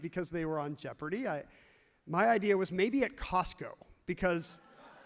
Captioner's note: audience laughs happily